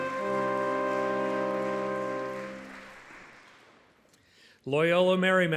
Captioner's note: audience clapping